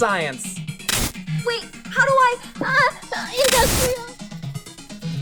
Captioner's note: glitch; glitch